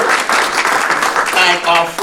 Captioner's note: attendees applauding